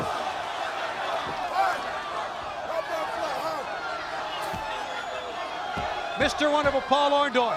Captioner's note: crowd chatter